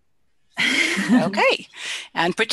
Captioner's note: laughter